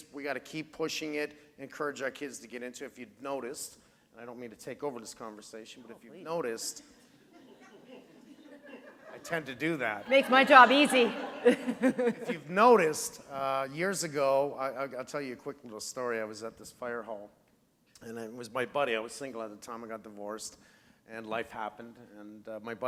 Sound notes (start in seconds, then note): 9.9 laughter